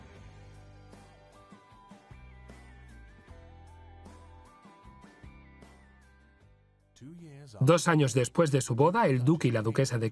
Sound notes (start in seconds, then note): 0.2 upbeat music; 6.7 voiceover